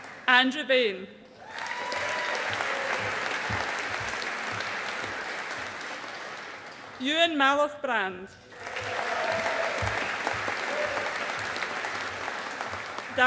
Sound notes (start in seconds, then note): 1.4 audience applauding; 8.5 audience applauding